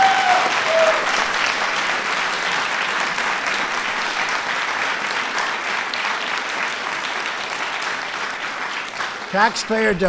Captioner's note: applause